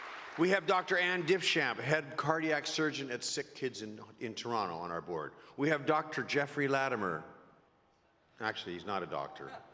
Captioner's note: applause